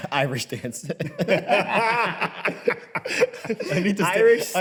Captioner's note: both laugh